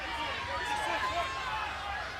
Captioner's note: crowd cheering